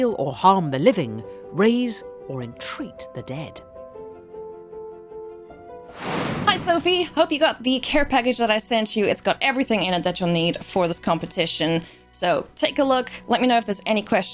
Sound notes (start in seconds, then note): 3.5 upbeat music; 5.9 air whooshing